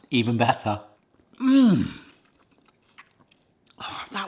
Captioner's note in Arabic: ضجيج التقدير لذيذ في الأساس يا قوم